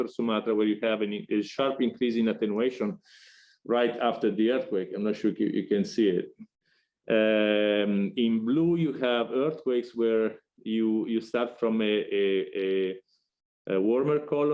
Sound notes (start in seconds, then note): none